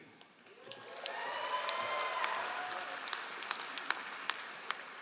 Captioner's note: all applauding